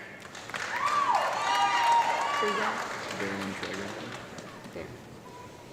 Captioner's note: audience clapping and yelling